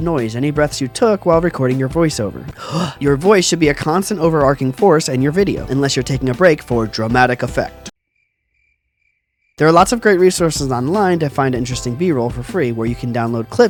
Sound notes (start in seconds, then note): 2.5 gasp; 8.1 crickets